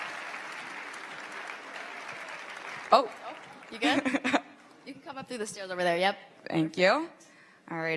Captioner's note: applause